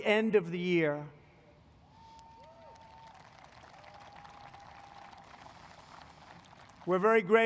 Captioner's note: applause